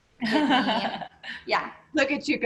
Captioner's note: laughter